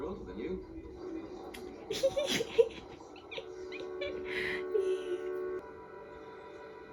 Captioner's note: me laughing lol